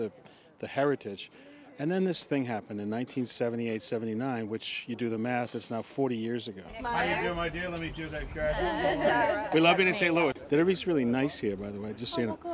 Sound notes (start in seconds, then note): none